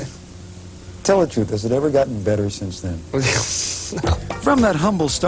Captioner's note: laughter